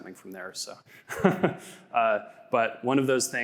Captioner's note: laughs